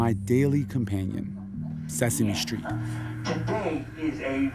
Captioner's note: soundbite of tv show, "sesame street"